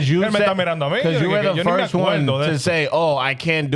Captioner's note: speaking In Foreign Language